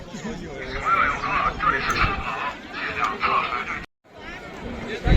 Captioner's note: something important in Chinese